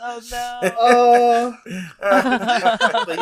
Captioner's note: laughs